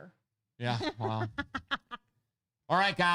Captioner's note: laughing